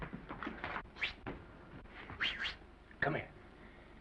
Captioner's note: Norman whistling